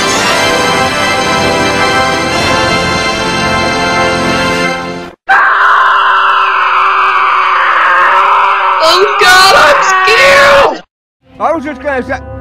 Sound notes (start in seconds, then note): 0.0 scary music; 5.2 the face from the screen screams